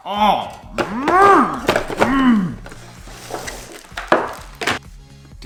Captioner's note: grunts